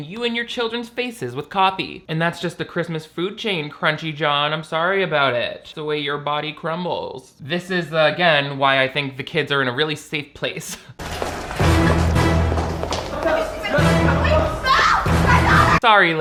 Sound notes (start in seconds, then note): 11.0 dramatic music; 11.3 laughs